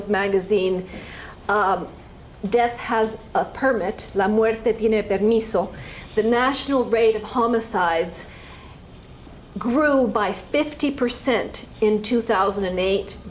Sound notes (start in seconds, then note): 4.1 spanish